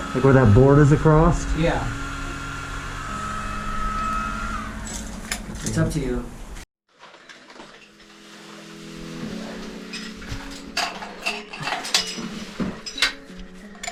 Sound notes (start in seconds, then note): 3.0 whirring continues; 4.7 metallic clinking; 4.7 whirring stops; 6.8 metallic clinking; 7.0 rope sliding; 10.0 metallic thumping